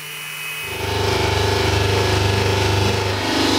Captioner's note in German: Ratterndes Maschinensurren